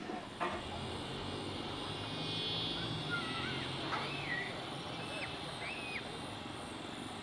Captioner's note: birds chirping; insects chirping